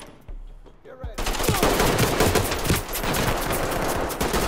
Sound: guns firing

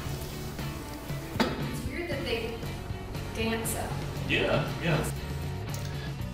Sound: loud Pop

